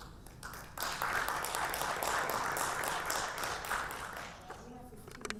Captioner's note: audience applauding